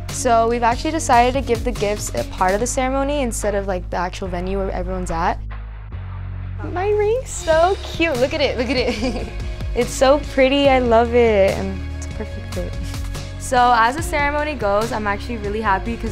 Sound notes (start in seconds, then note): 9.2 laughs